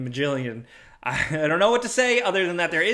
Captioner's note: chuckles